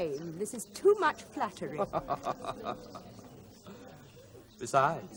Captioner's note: Elliot laughs